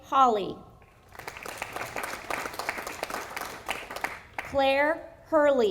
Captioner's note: audience applauding